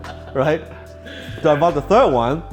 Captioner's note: laughs